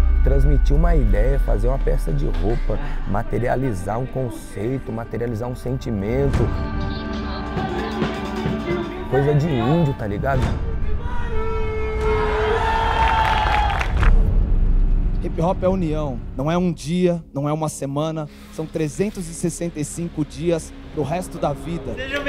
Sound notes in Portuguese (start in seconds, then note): 5.4 Música instrumental; 11.1 Gritos animados; 13.0 Palmas